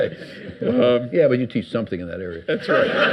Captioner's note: audience laughs